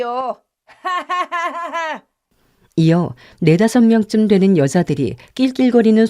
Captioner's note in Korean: 웃음